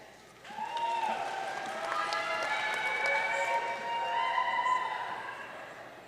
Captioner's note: audience cheering and applauding